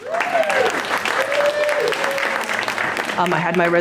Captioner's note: cheers & applause